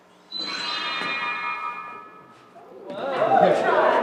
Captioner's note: chimes